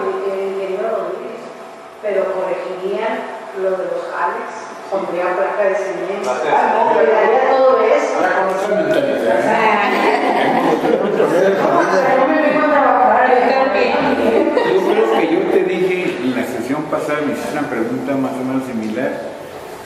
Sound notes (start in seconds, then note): 9.8 laughter